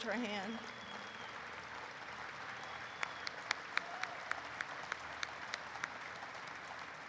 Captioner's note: applause erupts